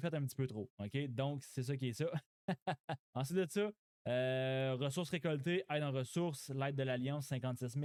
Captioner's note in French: rires